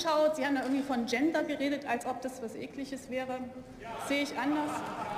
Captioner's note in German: Lachen